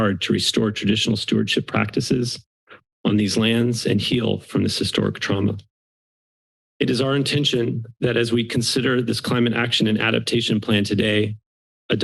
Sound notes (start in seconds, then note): 5.6 pause